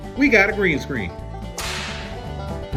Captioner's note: whip cracks